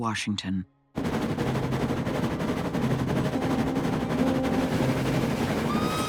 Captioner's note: train whistle blaring